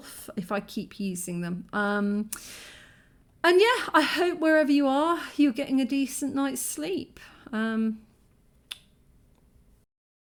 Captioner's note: kiss